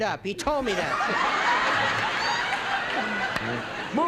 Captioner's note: laughter